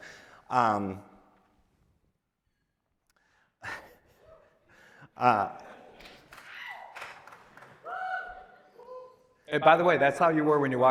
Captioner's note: pause